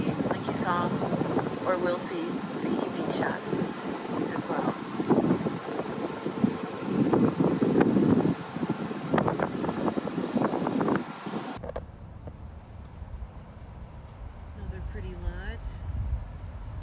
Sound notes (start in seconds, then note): 1.1 wind blowing